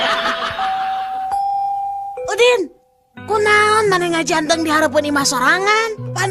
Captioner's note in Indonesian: tertawa